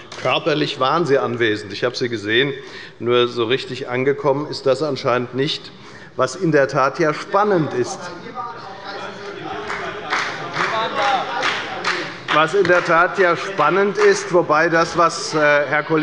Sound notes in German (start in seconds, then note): 9.5 Beifall bei der FDP und bei Abgeordneten der SPD